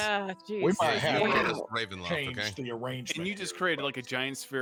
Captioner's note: group talking indistinctly